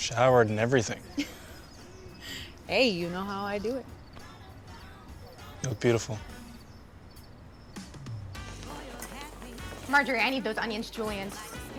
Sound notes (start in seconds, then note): 0.9 chuckles